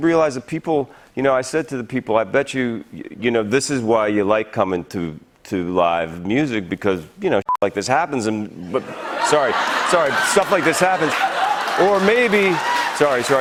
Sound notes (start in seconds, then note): 8.7 laughter; 12.5 cheers and applause